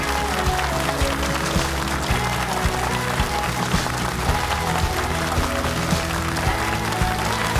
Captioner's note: audience applauding; upbeat music